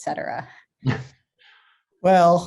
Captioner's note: chuckling